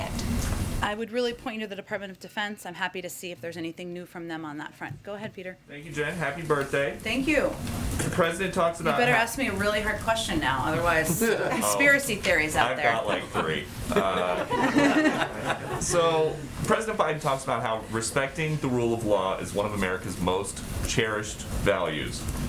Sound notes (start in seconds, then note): 13.8 laughter